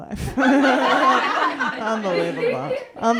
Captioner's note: laughter